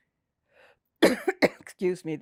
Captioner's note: coughing